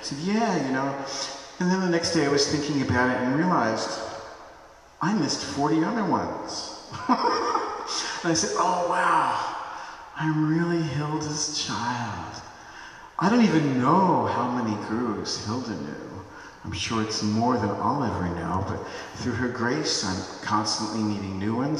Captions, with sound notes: Yeah, you know, and then the next day, I was thinking about it and realized I missed 40 other ones. (Laughs) And I said, "Oh wow, I am really Hilda's Child. I don't even know how many Gurus Hilda knew. I'm sure it's more than all every know. But, through her Grace, I'm constantly meeting new ones.